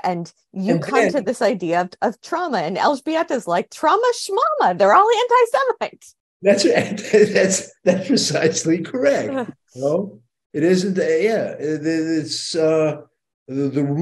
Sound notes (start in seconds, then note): 6.5 chuckles